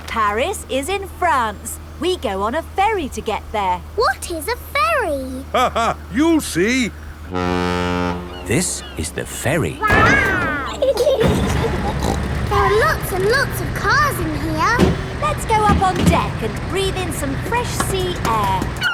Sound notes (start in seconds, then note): 5.7 laughing; 7.5 ferry horn blows; 10.9 snorts; 11.4 giggling